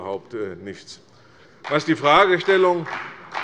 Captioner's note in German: Beifall bei der CDU